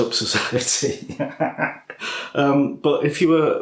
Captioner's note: laffs